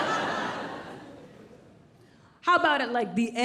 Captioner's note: audience laughs